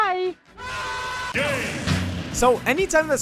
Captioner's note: scream